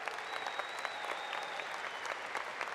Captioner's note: applause